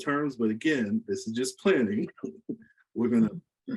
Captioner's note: laughs